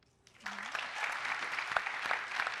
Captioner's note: applause